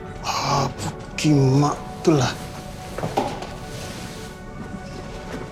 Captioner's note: speaking in foreign language